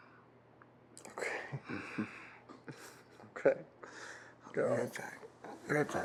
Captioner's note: Parker laughs; laughs